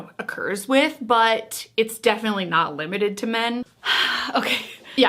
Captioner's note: sighs